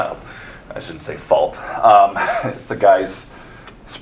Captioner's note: chuckles